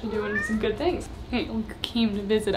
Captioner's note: cat meowing